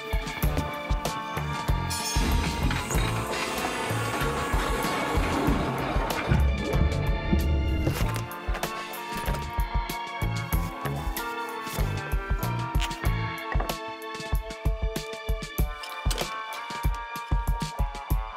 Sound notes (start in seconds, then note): 7.7 suitcase unzips